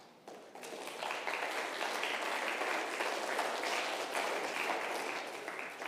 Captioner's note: congregation applauding